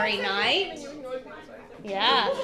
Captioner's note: student murmurs